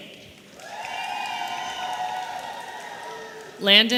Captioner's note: audience cheering